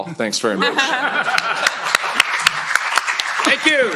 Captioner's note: laughter, applause